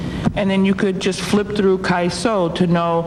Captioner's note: speaking foreign language